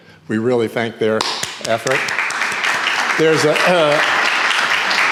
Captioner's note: audience applauding